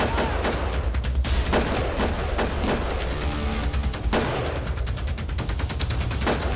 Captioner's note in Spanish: Disparos